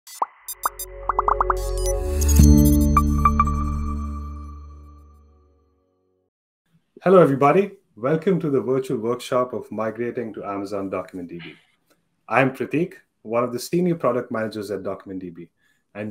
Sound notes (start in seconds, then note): 0.5 bright music; 1.0 bubbles popping